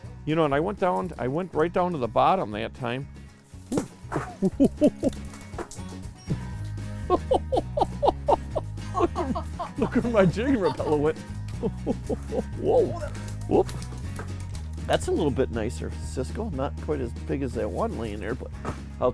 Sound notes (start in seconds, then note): 3.8 laughing; 7.0 both laughing; 12.3 laughs